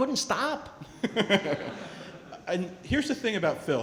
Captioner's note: laughing